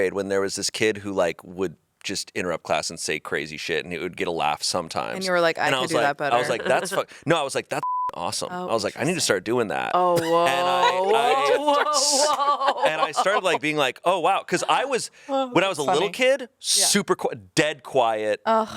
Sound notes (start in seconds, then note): 7.8 beep